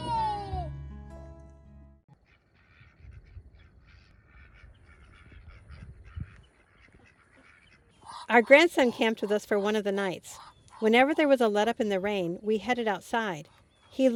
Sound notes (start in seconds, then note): 5.1 ducks quacking